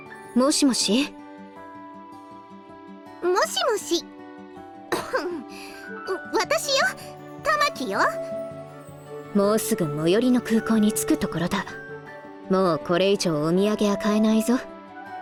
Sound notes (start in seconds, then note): 4.9 cough